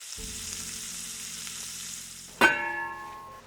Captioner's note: sizzling sound